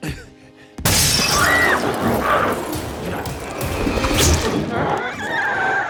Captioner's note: Chalee screams; glass shatters; glowzie shrieks